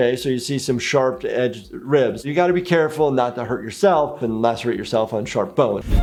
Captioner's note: none